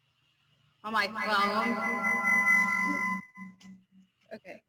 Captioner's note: feedback